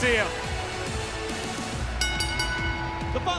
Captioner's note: bell ringing